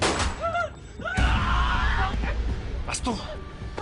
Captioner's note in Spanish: Disparo